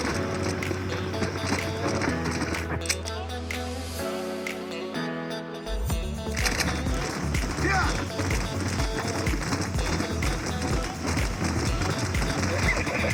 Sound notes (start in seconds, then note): 1.9 map Greeting Sounds